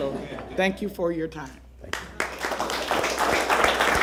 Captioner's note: laughter